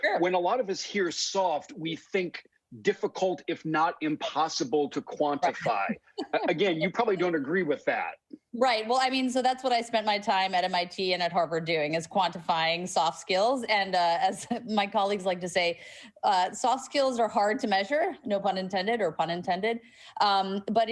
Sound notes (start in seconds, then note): 5.4 laughs